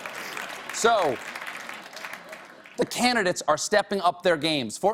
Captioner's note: applause